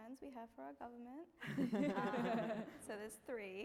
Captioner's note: laughing